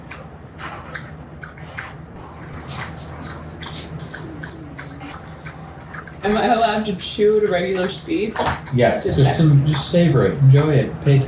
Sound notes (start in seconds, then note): 2.9 chewing sound